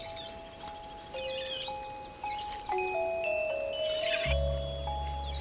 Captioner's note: chattering